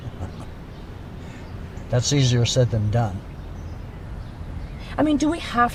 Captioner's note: chuckles